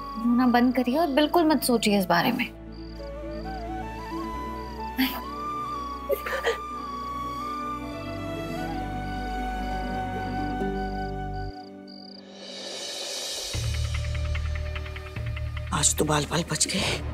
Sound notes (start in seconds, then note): 6.1 crying; 8.1 emotional music playing; 13.2 pensive music playing